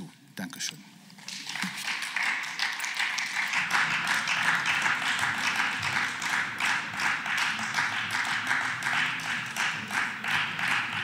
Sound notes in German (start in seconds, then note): 3.2 Beifall